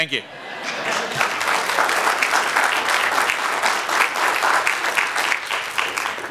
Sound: applause

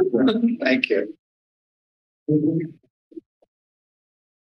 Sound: background conversations; silence

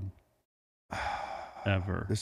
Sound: sighs

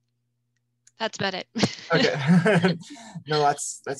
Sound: chuckles

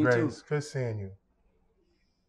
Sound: laughing

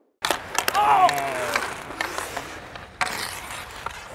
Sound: skating sounds; yelling

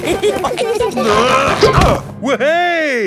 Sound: all giggling; grunting

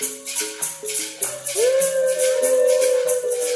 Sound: ulululating

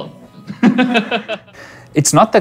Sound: laughing

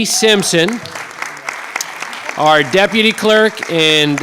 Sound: clapping

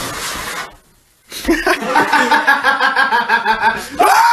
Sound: assorted laughter

